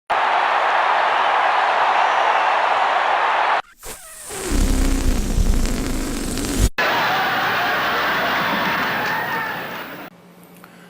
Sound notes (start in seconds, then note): 0.1 crowd cheering; 3.6 balloon deflating; 6.8 crowd cheering